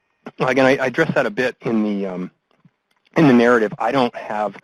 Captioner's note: voiceover